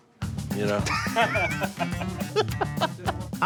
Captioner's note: laughter